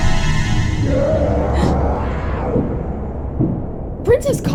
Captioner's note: Kaguya screams